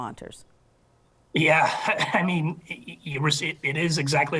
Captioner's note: chuckles